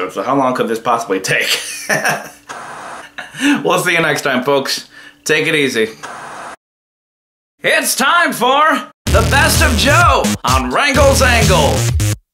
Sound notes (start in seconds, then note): 1.8 laughs; 2.4 TV static